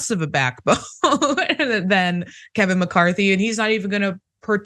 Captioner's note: laugh